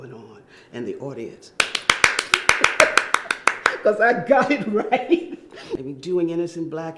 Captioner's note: clapping hands